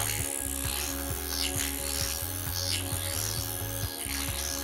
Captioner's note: machine vibrating